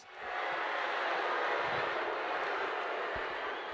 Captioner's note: crowd jeering